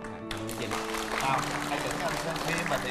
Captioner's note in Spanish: aplausos